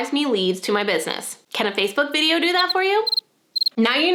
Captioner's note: cricket chirps